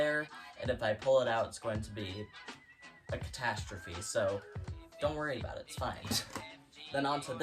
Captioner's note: laughs